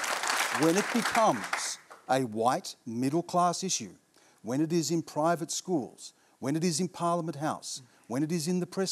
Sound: applause

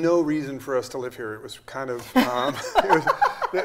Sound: laughs

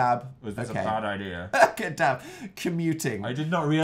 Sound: laughing

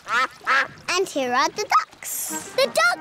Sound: quacking

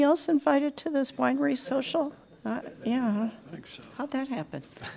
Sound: laughter

